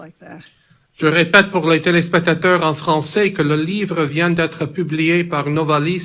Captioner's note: speaks in foreign language